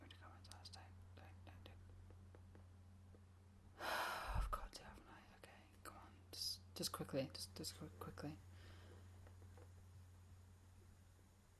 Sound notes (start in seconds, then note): 3.8 she sighs